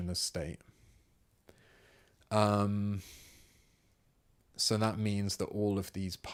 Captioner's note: silence